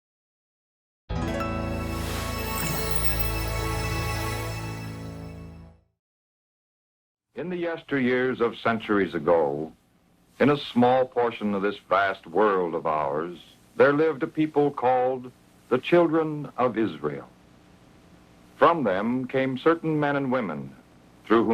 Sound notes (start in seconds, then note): 1.2 gentle music; 1.7 logo whooshing